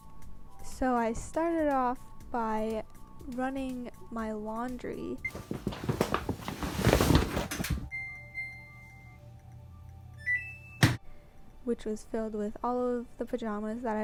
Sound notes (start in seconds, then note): 8.2 various machine chimes